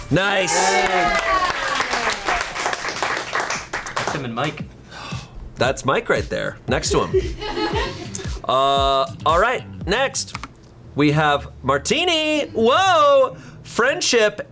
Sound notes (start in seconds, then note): 0.6 colleagues applauding; 6.9 colleagues laughing